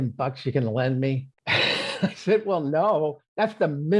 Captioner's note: laughing